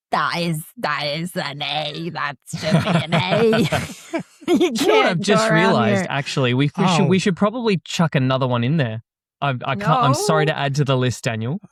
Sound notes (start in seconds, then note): 4.9 laughter